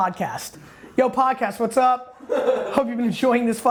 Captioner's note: laughs